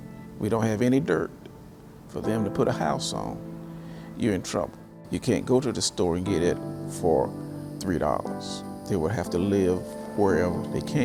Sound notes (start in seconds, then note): none